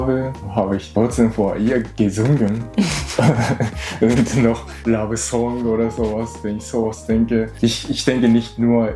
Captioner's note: laughs